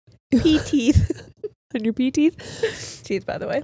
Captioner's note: laughs